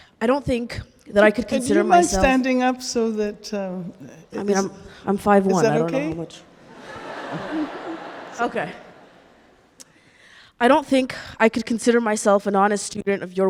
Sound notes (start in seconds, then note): 6.6 audience laughing